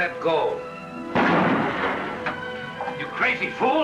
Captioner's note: gunshot